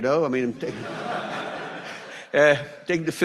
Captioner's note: audience laughs